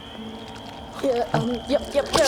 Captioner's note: squelch